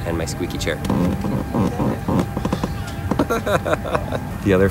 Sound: chair squeaking; laughs

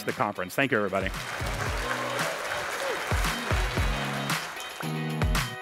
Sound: audience applauds; lively music

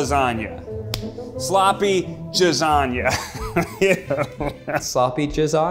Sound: laughs

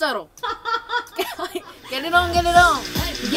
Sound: laughing

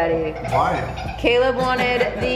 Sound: kids laugh

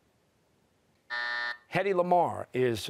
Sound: buzzer

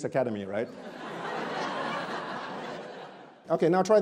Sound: audience laughs

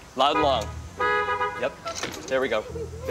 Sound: horn honks

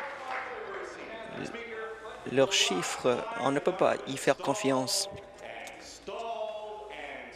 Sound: applause

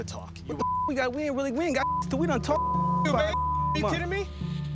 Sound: beeping

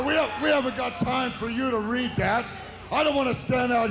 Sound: crowd cheers

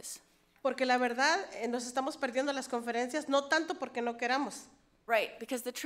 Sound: speaks foreign language

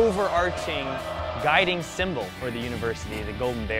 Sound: cheering

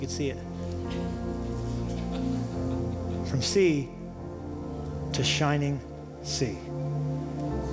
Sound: laughter

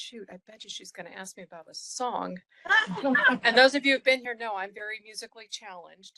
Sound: laughing

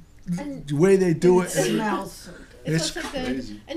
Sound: voiceover

